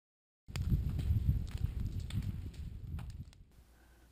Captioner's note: fire blazing